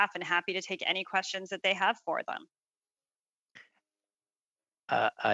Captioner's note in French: voix de l'interprète